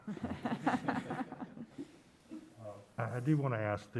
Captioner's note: laughs